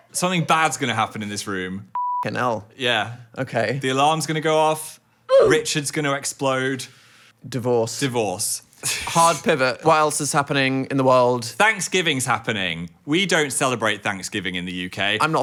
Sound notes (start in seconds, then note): 1.9 beep; 5.3 "Oof" sound plays